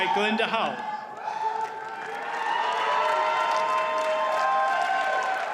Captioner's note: audience cheers and applauds